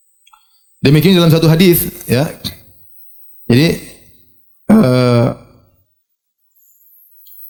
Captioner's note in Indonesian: berdehem